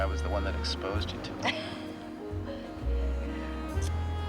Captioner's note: laughs